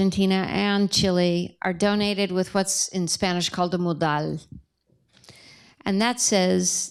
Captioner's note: spanish